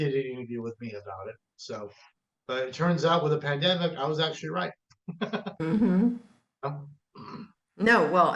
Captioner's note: laughs